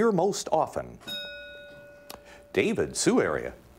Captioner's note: bell rings